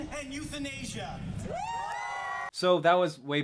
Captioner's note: crowd cheering